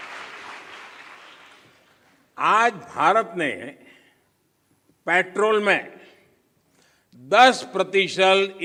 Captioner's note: applause